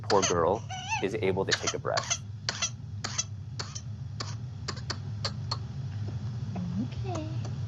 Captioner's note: baby coughing